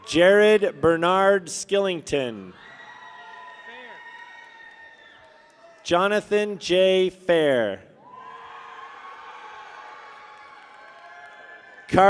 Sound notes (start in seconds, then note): 2.5 people cheer; 8.0 people cheer